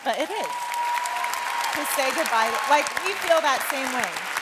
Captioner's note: cheers and applause